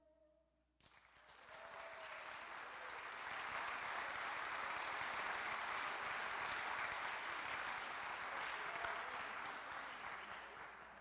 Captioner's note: applause